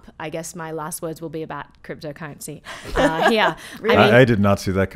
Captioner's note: laughing